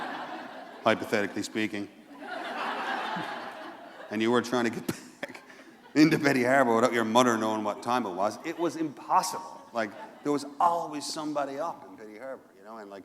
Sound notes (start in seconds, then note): 2.1 laughter